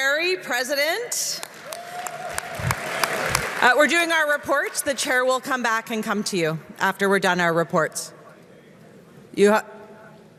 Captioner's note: applause